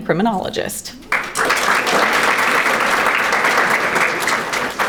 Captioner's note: audience applauding